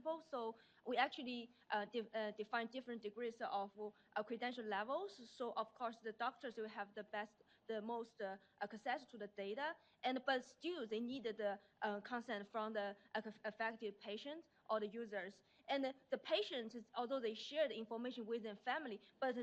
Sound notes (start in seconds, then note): none